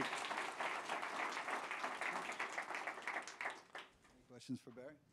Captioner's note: applause